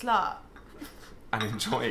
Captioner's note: laughing